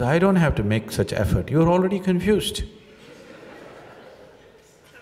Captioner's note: laughter